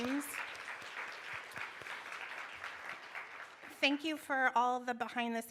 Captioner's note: applause